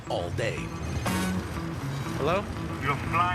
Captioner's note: cell phone rings